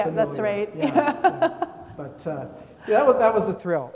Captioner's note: laughs